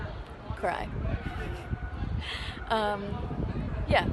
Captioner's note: laughs